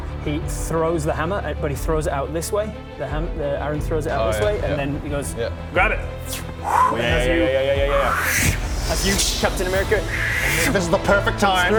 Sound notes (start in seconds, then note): 7.9 swoozh